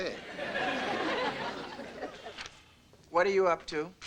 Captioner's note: audience lightly laughing